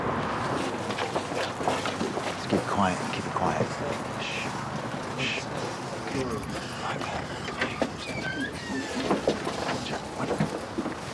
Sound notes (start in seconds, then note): 6.2 door squeaking